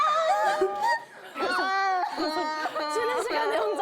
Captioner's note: almost crying